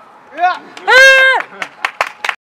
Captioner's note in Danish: klapsalve